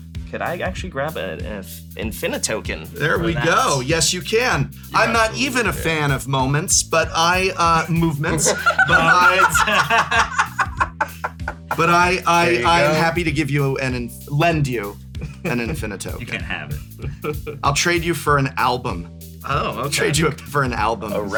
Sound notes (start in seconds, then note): 10.8 laughter; 15.2 laughs; 16.2 continues laughing